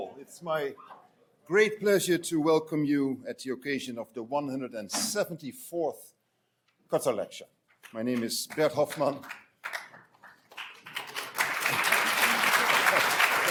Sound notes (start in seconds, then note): 7.7 hands clapping; 11.1 audience applauding